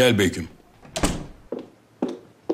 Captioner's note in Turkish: Kapı kapanma sesi; Topuk sesi